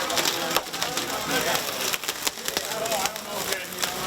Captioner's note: rescuers talking